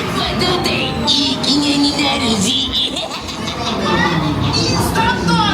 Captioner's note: character muffled